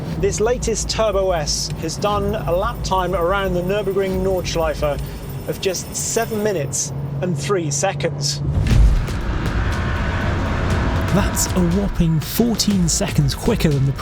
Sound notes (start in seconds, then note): 8.1 engine revving; 8.5 thrilling music